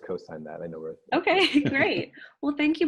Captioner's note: laughing; laughs